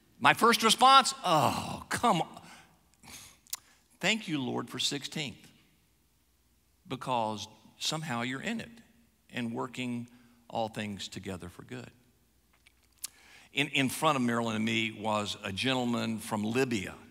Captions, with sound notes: My first response? (groans) Come. (sighs) Thank You Lord for 16th, because somehow You're in it and working all things together for good. In front of Marilynn and me was a gentleman from Libya,